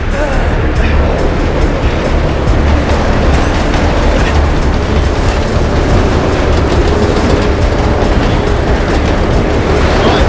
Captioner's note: wind rushing